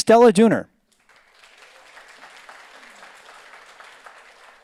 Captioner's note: audience applauds